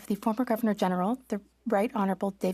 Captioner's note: speaking French